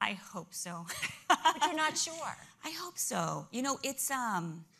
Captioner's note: laughter